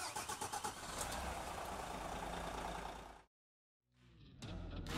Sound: engine running

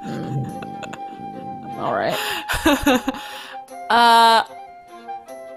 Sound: chuckling

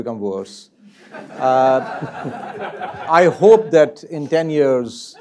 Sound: laugh

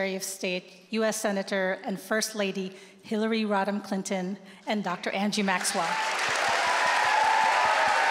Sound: applause

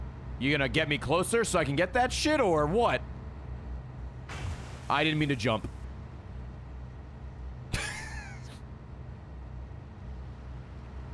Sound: laughs

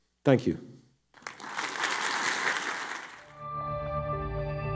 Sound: audience clapping

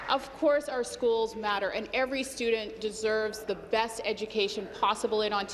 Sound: applause

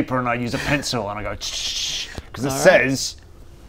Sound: chhchchchh

